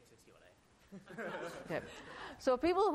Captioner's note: laughter